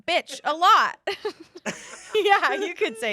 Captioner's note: everyone laughs